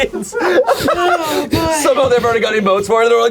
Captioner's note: all laughing